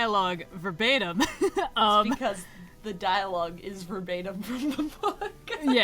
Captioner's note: laughs